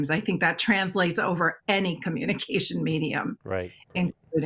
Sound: chuckles

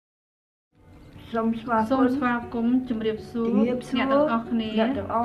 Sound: foreign language

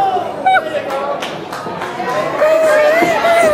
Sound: audience exclaims; cries

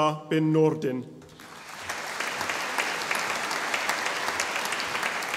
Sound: audience applauding

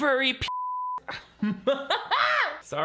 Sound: beep; laughs

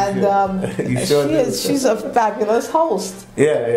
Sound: laugh

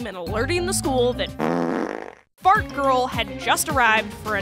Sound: fart

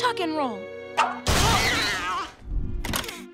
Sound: cat screeching

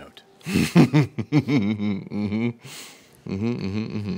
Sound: chuckles

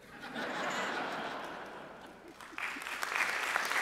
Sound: audience laughing; audience applauding

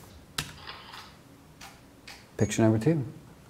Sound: camera shutters

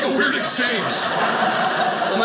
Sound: audience laughing

